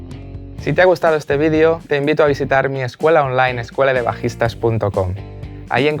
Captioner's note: spanish